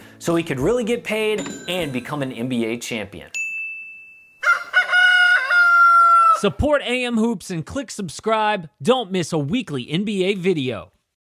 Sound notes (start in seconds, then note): 4.4 rooster crows